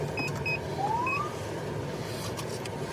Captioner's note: siren chirps